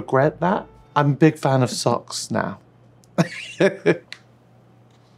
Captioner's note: laughs